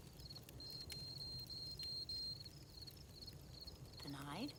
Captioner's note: computer bleeps